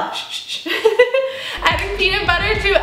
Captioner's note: laughing